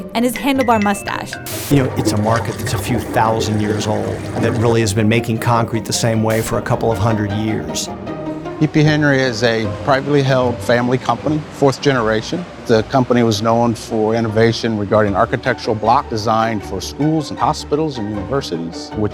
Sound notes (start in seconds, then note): 1.4 static